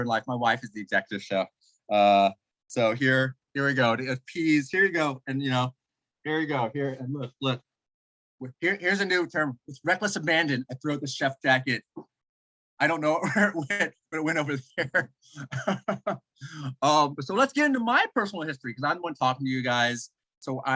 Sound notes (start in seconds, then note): 14.2 laughs